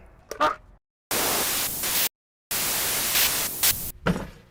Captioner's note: static